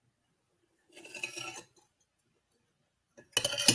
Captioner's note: the sound of a spoon scraping a bowl